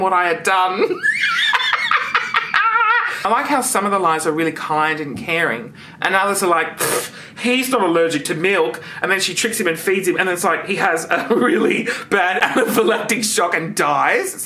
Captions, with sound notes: what I had done. (laughs) I like how some of the lies are really kind and caring and others are like, (scoffs) he's not allergic to milk. And then she tricks him and feeds him and it's like he has a really bad anaphylactic shock and dies.